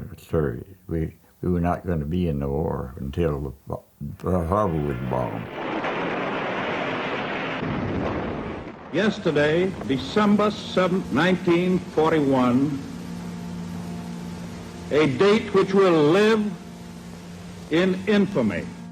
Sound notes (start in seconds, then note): 6.4 aircraft engines; 7.9 bomb exploding